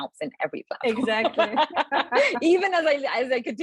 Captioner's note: laughing